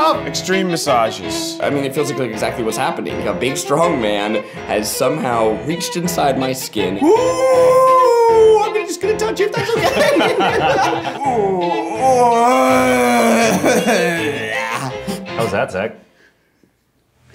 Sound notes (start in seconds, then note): 7.0 howling; 11.3 groaning